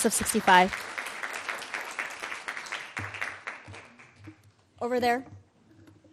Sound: audience clapping

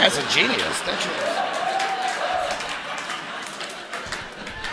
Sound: audience laughing

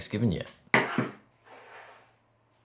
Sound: board sliding

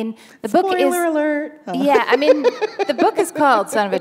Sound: laughter

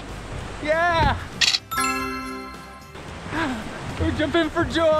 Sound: camera flashes

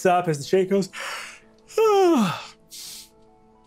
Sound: yawning

